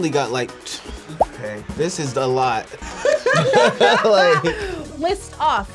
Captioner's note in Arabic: تضحك